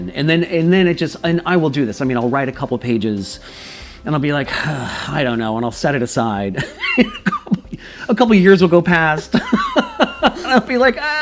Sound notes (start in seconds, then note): 6.5 laughs